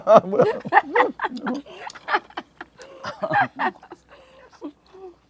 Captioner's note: both laughing